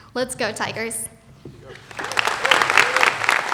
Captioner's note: applause